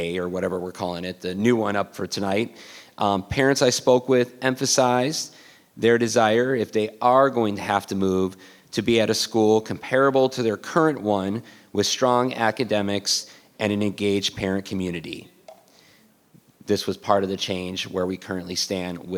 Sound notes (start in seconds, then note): none